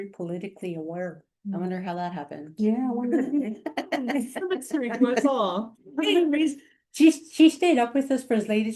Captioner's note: sarcastically